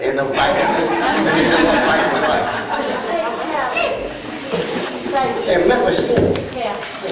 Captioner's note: laughter